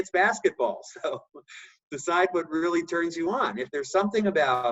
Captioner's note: laugh